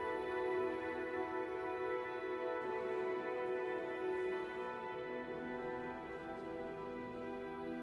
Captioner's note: enchanted music; guests chattering